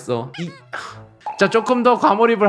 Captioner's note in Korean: 우욱; 풉ㅋ